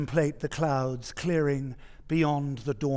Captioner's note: none